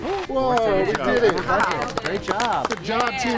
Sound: applaud

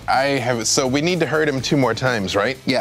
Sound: none

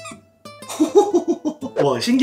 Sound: laughing

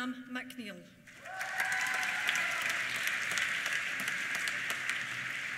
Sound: applause; cheers

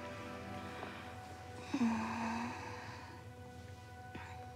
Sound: moans sleepily

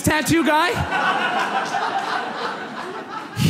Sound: audience laughs

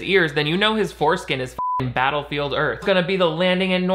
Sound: beeping

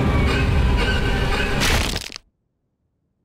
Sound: cracking

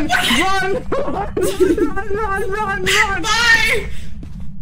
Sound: giggles

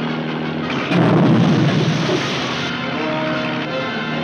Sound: grenade explodes

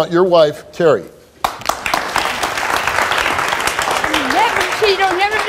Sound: audience applauding

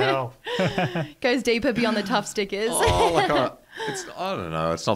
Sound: laughs

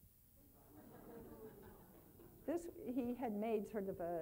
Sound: laughing

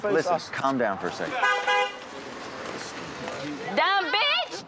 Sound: horn honking

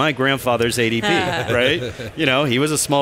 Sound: laughs

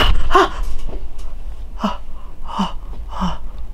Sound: breathing

